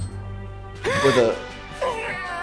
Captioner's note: gasp